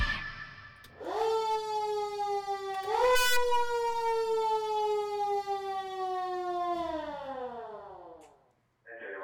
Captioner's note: siren sounding